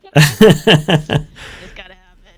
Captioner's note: laughing